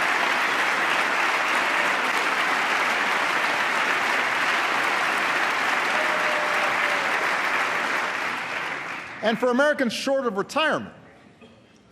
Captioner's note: applause